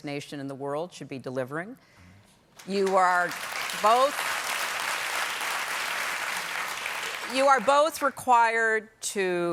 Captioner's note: applause